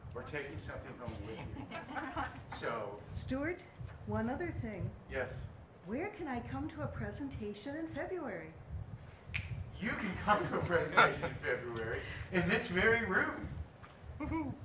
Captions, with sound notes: or taking something home with you. [Laughing] So. Stuart, one another thing. Yes. Where can I come to a presentation in February? You can come to a presentation in February in this very room.